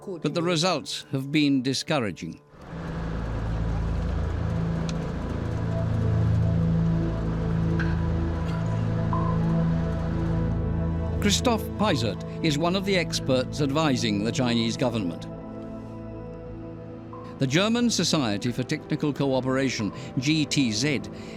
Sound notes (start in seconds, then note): 2.7 motor rumbling